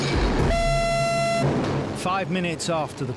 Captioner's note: alarm blasts